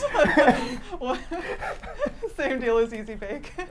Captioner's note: laughing